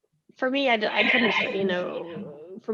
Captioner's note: audio glitching